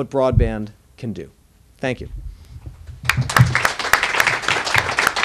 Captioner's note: applause